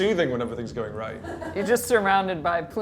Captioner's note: laughs